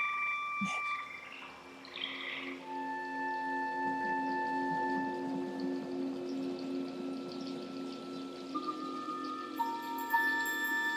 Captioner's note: eerie music continues; water trickling